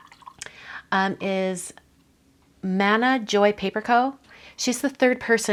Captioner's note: water splashing